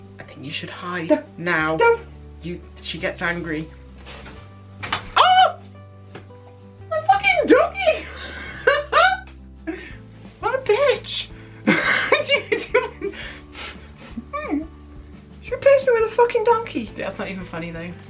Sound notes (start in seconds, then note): 14.0 whimper